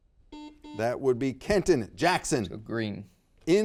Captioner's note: buzzer beeps